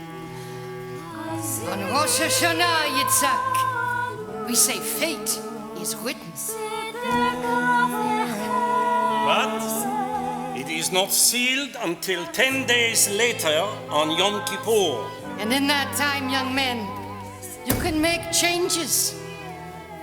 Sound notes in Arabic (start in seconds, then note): 2.9 بالعبري